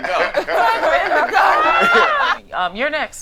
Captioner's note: group laughing